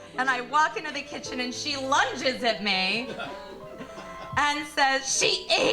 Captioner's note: audience laughing